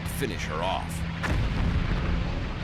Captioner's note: explosions